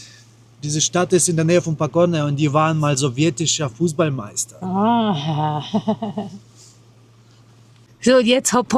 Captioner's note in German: gelächter